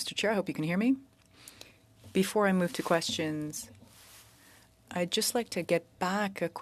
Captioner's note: speaking French